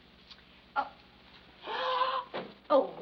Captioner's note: gasps